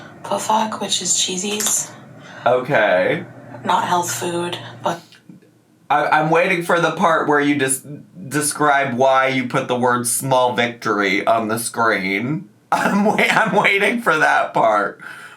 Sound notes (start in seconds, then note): 0.7 speaking in foreign language